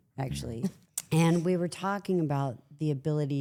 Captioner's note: participant chuckling